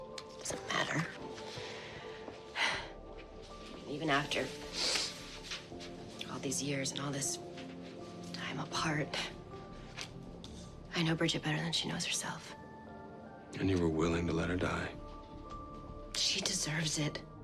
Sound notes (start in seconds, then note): 2.5 sighs